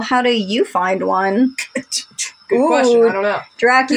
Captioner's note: Scoffing As Jæmis